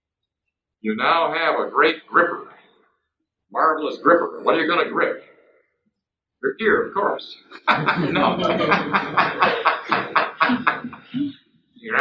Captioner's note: ha ha